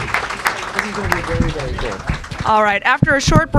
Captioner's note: applause